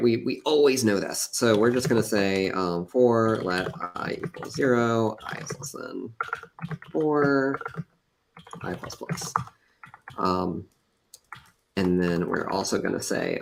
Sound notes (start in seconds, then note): none